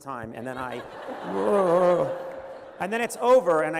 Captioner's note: laughter